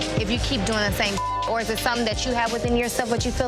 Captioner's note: beep